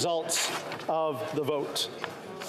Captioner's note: speaking French